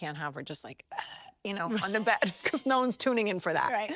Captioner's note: grunting weakly